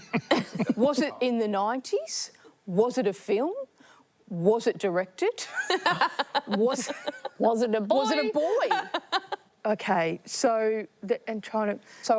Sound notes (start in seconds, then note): 5.7 laughs